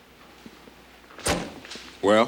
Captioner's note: door thuds